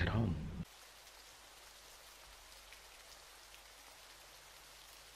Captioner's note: water stream trickling